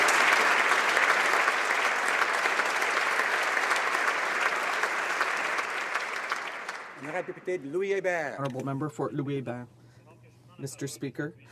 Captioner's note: applause